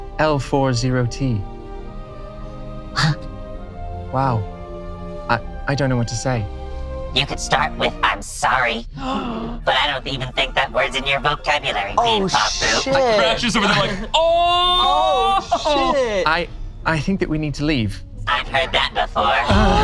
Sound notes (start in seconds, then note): 9.0 gasps